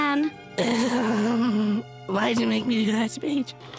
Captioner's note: groaning